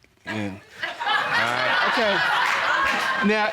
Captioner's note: audience laughing